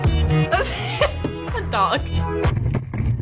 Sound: giggling

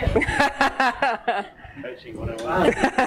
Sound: laughing

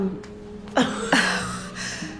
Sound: laughter

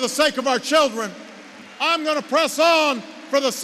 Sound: applause

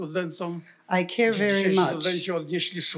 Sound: foreign language

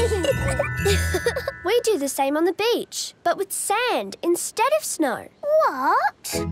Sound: giggling; laughing

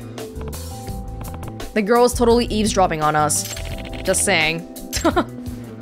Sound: chuckles

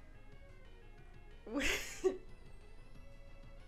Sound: laughs

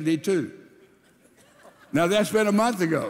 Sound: congregation laughing

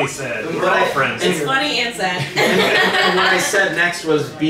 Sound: laughing

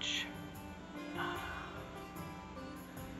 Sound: exasperated sigh

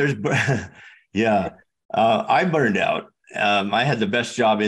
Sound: laughs

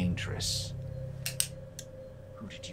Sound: gun cocks

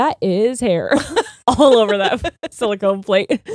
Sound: laughing; chuckles

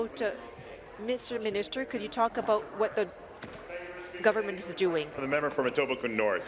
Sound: speaking in French

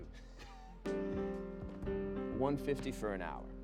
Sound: Phillip laughing

